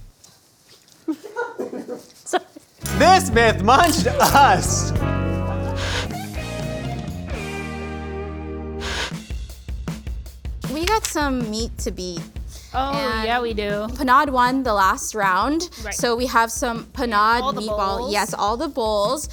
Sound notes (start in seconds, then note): 5.7 Static; 6.2 upbeat Music; 8.8 Static